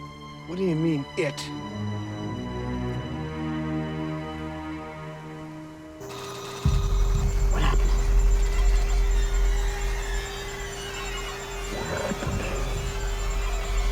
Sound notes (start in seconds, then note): 3.0 ominous music; 6.0 robot whirring